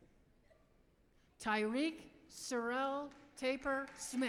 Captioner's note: applause